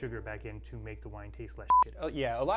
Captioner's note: beep